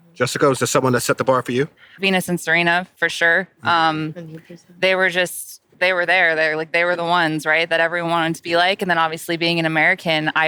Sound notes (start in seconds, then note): 3.5 La La speaking faintly